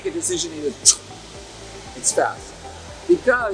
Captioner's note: imitates whooshing